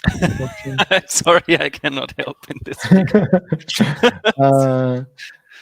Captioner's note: laughs